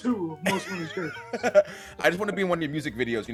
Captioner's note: laugh